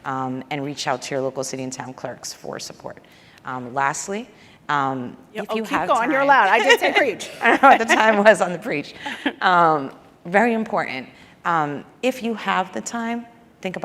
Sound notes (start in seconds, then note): 7.2 laughs